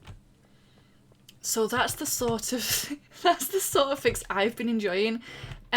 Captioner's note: laughs